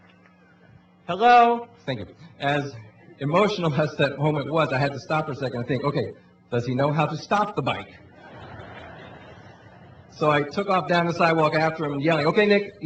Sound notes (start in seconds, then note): 8.1 laughing